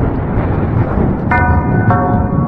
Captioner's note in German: Betätigt die Klingel